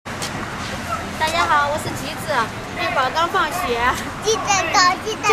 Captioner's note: Mandarin